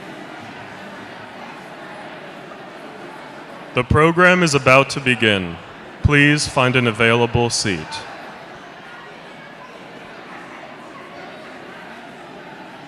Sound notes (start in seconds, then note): 4.4 applause